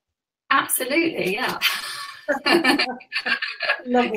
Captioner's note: laughing